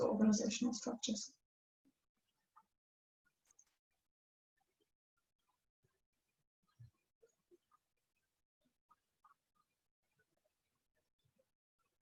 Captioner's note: silence